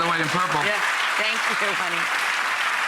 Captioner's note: audience applauds